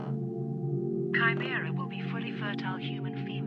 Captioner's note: floor creaking